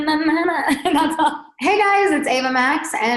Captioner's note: laughing